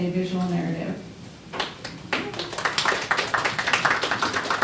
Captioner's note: applause